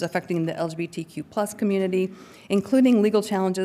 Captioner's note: none